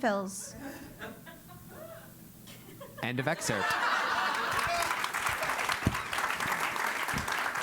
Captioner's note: laugh; applause